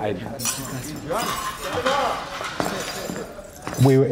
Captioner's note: patrons chattering and cutlery clinking